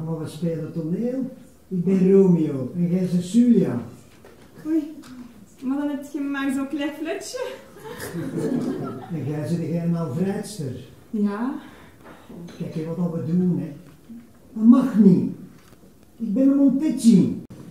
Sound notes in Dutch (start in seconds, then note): 7.7 publiek lacht